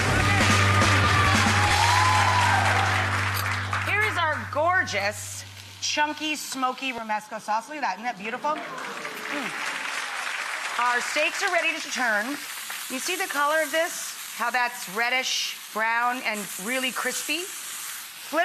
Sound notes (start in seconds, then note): 0.0 rock 'n roll music; 8.5 audience applauds